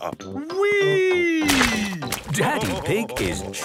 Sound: splashes

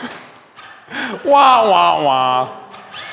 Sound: inhale

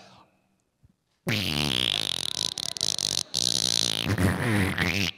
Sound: making humorous noises

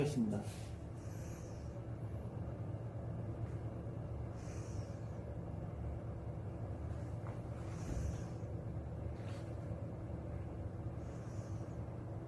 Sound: microwave oven running

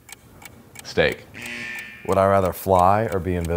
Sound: buzzer blaring

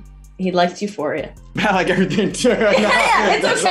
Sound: laughing

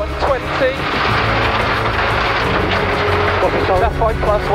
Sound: engine chugging

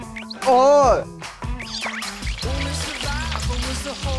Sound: corn dogs are being fried

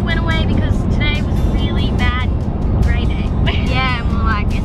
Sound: laughs

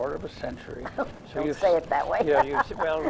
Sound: laughs

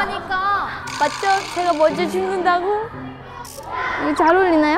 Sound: trudging

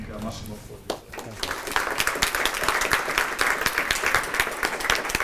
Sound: applause

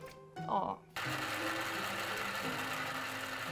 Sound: mixer whirring; upbeat music

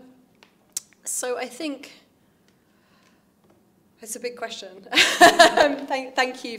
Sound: laughs

